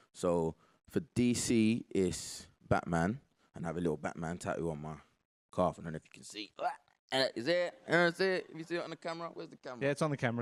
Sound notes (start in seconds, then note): 6.7 loud grunting